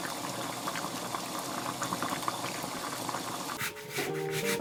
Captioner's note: boiling